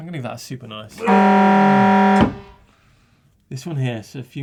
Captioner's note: buzzer